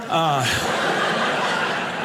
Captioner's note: audience laughing